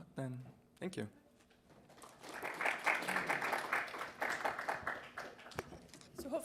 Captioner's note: applause